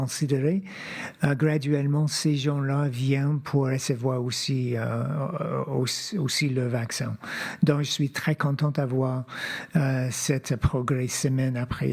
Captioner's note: speaking French